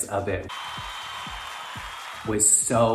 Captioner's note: crowd cheering; crowd applauding